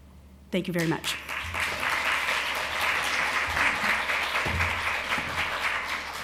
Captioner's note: applause